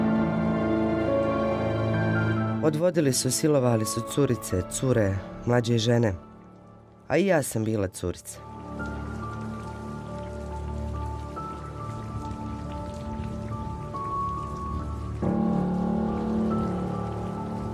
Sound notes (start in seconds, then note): 2.7 woman speaking in foreign language